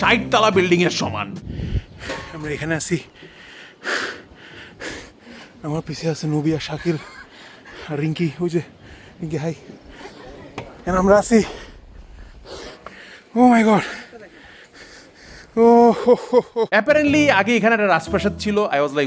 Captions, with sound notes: Equivalent to a 60-story building. *heavy breathing* We are here. *more heavy breathing* Behind me are Nobee and Shakil. And Rinky, there, Rinky, hi! And we are. Oh my God! Oh-ho-ho-ho! Apparently, there was a palace here before.